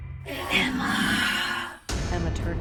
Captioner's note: ghosyl voice